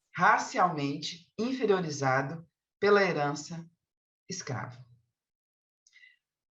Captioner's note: continues speaking in Portuguese